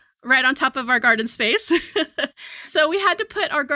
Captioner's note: chuckles